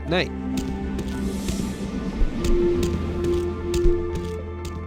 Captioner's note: traffic humming